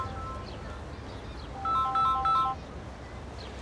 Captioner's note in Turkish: Telefon çalıyor